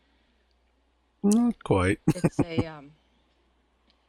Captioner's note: chuckling